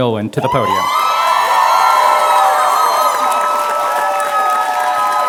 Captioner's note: applause and cheering